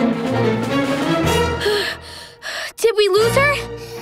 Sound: panting

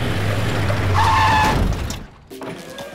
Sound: screeching

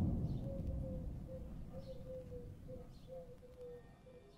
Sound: owl hooting

